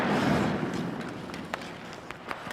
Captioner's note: stick slaps puck